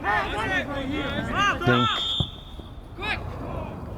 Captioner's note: whistle